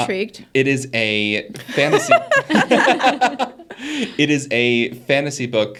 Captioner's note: all laughing